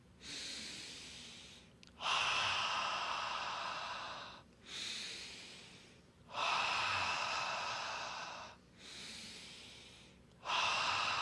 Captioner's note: inhales and exhales four times